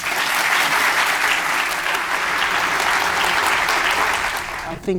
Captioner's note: applause